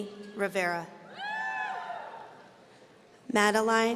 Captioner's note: audience cheering